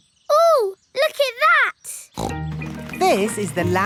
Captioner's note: snorts